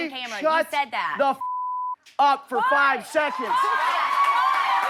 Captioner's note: beep; audience applauding